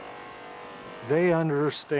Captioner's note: spray gun buzzes and hisses